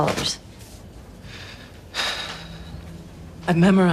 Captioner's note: sighs